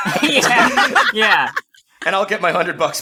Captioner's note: all erupt into laughter